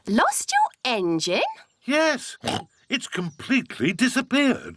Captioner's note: oinks